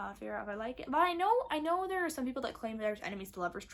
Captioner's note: stuttering